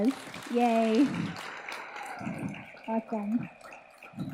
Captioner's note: audience applauds